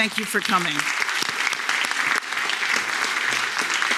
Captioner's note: applause